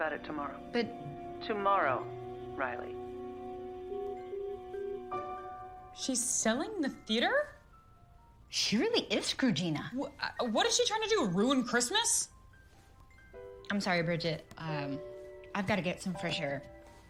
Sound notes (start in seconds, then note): none